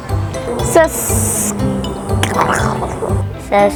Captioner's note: growling